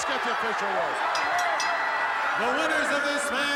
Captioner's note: bell ringing